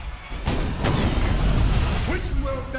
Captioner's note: gunshots